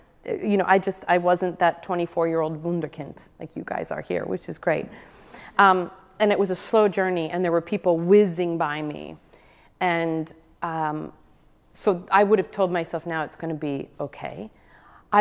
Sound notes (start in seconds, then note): none